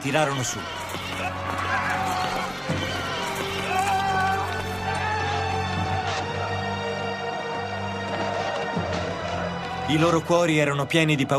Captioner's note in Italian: Applauso